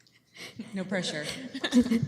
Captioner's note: laughing